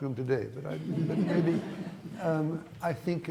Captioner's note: laughter